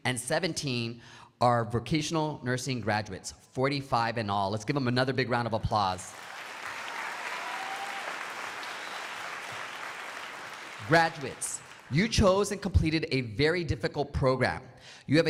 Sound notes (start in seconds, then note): 6.1 crowd applauding